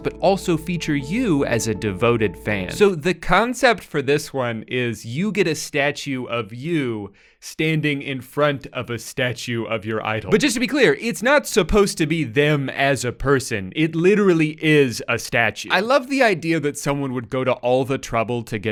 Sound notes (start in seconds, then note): none